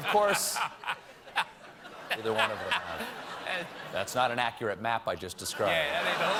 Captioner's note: laughter